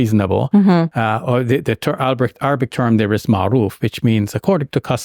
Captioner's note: foreign language